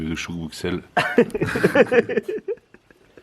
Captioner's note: laughter